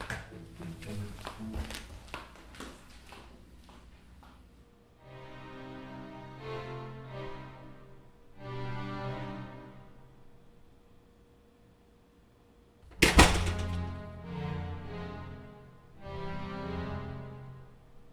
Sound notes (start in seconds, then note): 4.6 door closing; 4.6 dramatic music